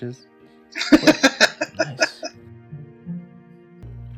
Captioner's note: laughing